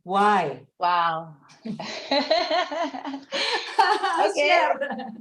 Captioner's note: laughing